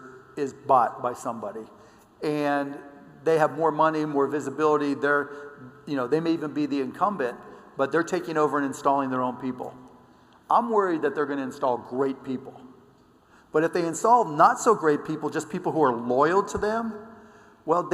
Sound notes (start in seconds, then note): none